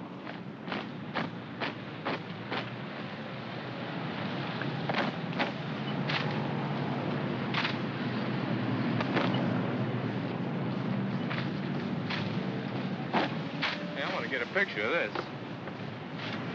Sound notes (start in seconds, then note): 0.6 feet marching; 3.0 vehicles rumble in distance